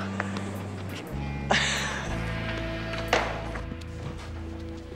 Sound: scoffing

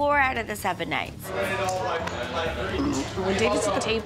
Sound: belches

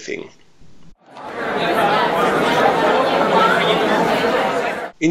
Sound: indistinct chatter of a crowd of people

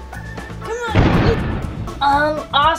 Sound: explosion

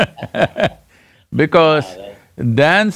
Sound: both laugh

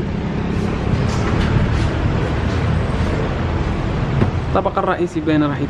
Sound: engine sound

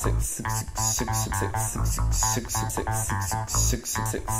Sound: stuttering

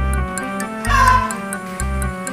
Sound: caws

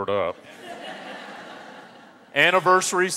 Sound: audience laughs

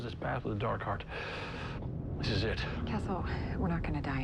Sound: inhales deeply

